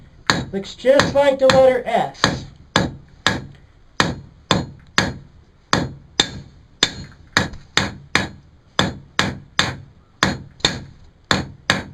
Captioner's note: hammer noises